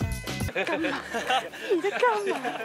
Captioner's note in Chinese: 笑~~~